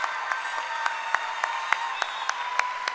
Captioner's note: cheering and applause